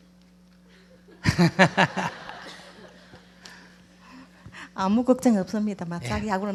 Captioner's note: audience/ Laughter